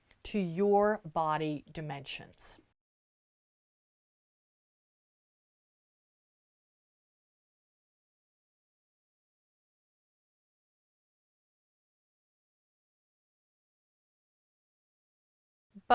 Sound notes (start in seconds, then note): 2.7 no Sound Present